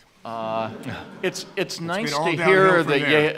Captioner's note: audience laughing